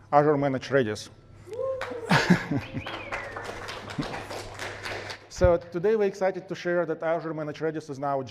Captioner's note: applause